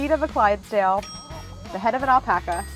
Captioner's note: bell chimes